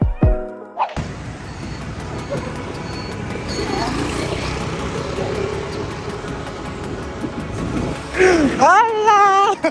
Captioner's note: traffic noise; laughing